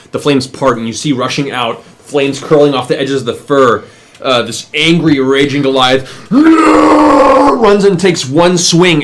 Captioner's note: yells